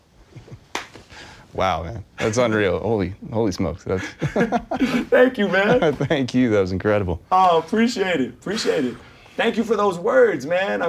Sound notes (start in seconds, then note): 0.4 laughing; 4.0 laughing